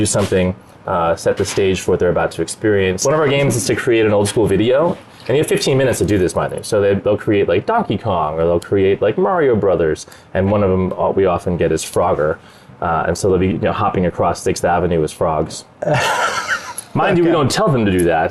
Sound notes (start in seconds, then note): 15.8 laughs